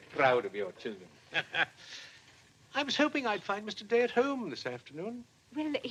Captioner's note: chuckles